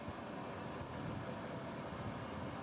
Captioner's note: none